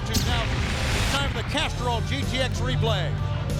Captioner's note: flames whooshing